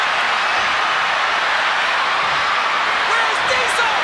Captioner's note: crowd cheering